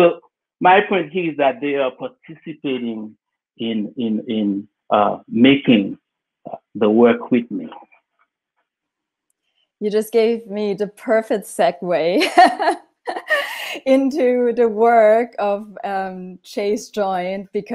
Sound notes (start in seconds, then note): 13.1 laughs